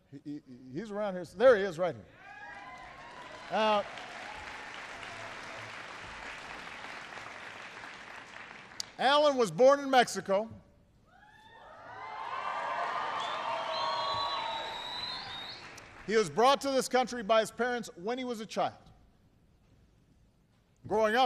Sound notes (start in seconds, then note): 5.5 applause; 12.2 applause